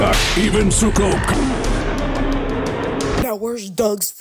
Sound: Kong roars; Suko roars

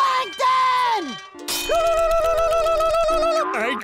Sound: screeching

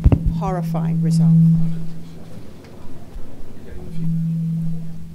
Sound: feedback

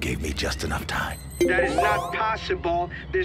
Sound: electronic chime

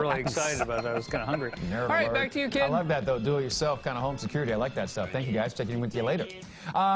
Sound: laughter

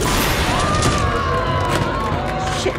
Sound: crowd yelling

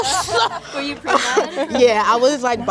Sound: all laugh

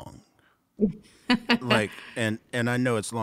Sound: laughing

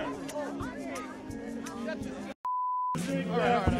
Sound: crowd murmuring

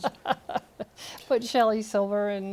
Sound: laughter

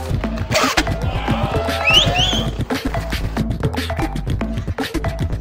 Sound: upbeat music; crowd cheers

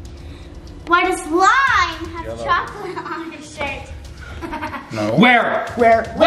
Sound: laughs

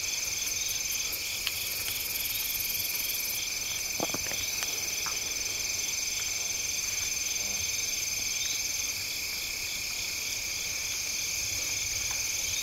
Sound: crickets chirping

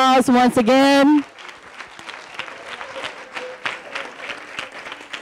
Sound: audience applauding

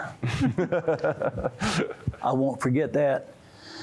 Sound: laughter

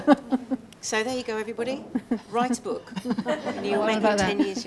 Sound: laughing; laughing

